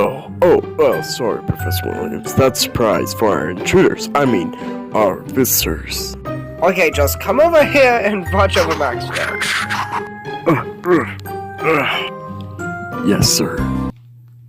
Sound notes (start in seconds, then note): 11.5 security Guard grunts